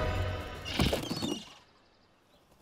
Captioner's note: seagulls cry